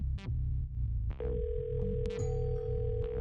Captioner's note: phone ringing